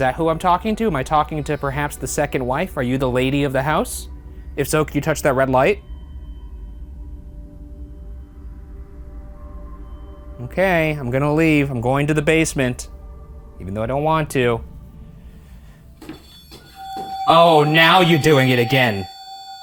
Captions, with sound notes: Is that who I'm talking to? Am I talking to perhaps the second wife? Are you the lady of the house? If so, can you touch that red light? Okay, I'm gonna leave. I'm going to the basement even though I don't want to. (device beeping) Oh, now you're doing it again.